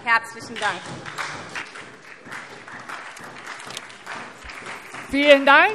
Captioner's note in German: Beifall SPD